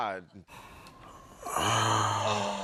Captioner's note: sighing